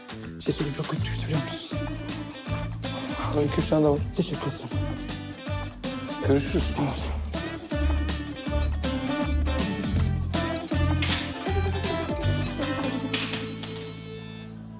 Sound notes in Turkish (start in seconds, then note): 10.9 Kapı açıldı